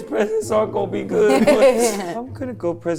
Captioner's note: laughing